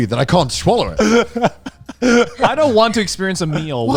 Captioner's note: laughing